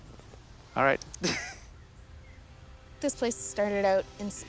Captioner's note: laughing